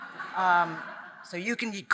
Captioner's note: audience laughing